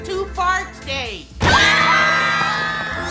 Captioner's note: screaming